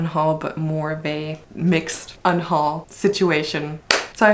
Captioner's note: claps